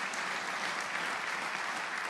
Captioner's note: applause